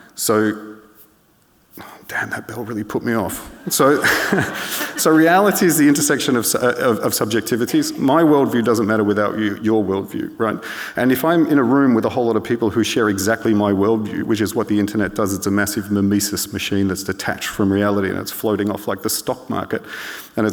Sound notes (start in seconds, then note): 3.4 laughs; 3.6 audience laughing